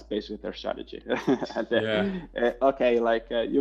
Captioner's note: both laughing